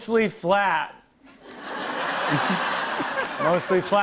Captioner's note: laughter